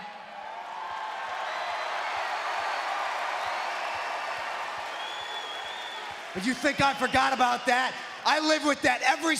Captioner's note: applause